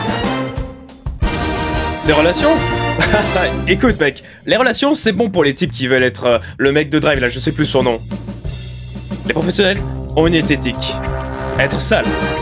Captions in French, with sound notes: Des relations ? *rigole* Écoute mec... Les relations, c'est bon pour les types qui veulent être... le mec de Drive là je sais plus son nom. Les professionnels... ont une éthique. Être sale.